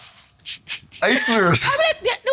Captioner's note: laughs